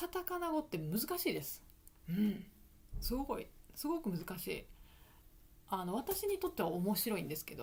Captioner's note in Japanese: 咳払い